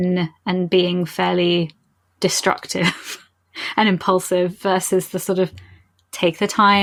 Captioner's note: laughing